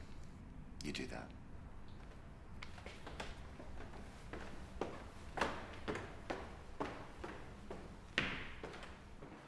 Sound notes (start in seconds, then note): 4.2 footsteps thumping